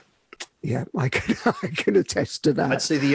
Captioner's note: laughing